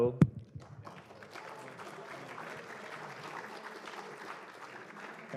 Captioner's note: applause